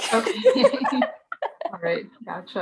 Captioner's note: laughs